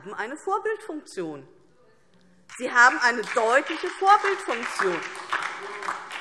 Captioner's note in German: Beifall DIE LINKE und vereinzelt SPD